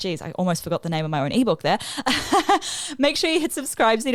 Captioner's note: chuckles